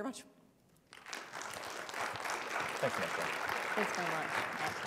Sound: audience applauding

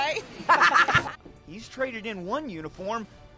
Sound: laughs

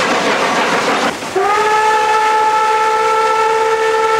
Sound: train chugging

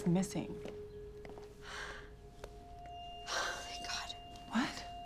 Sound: sighs

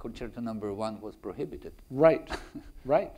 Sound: chuckles

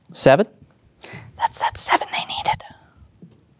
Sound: whispering

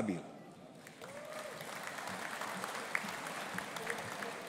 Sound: audience applauding

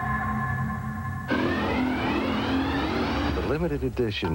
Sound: engine sounds

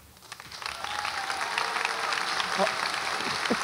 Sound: audience applauds

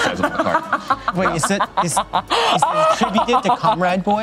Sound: laughs heartily

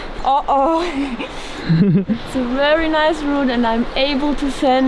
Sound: giggles

